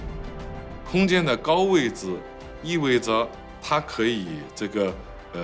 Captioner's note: speaking foreign language